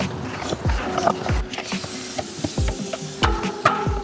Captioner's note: bike pumping